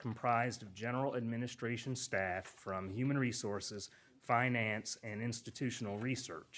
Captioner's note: none